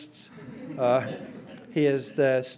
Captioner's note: audience laughing